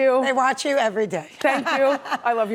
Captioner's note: laughs